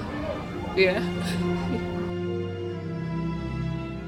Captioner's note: laughs; beautiful melancholy music